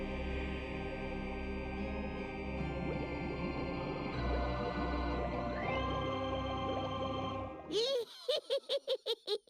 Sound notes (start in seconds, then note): 2.8 bubbling; 7.7 cackling